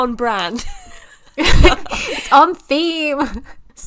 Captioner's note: laughs